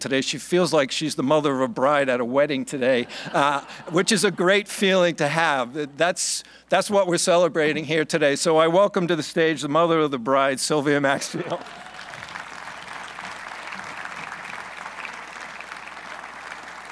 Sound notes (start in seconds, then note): 3.4 laughing; 5.6 laughing; 11.4 applause